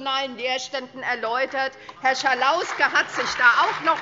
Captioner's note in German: Beifall SPD